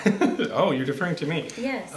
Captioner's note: laughs